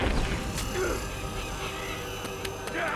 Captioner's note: gulls cawing